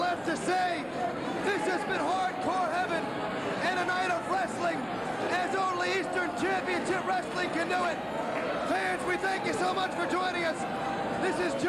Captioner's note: cheers and applause